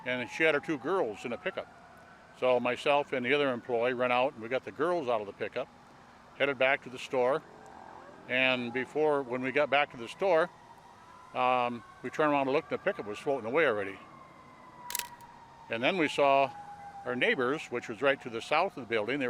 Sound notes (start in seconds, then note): 14.9 camera snapping